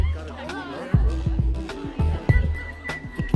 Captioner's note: laughing